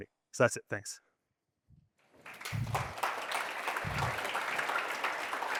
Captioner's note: audience applauding